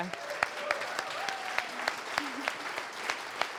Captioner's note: applause